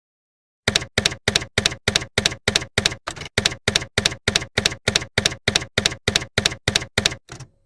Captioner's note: typewriter keys clacking